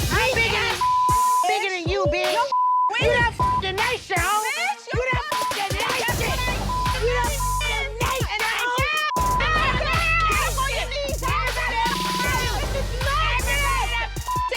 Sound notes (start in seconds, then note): 0.0 tense hip-hp music; 9.1 people shouting indistinct; 10.0 tense hip-hp music